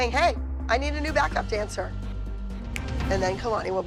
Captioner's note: none